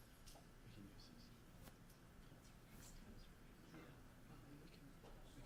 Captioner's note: speaking off microphone